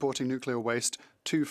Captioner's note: speaking French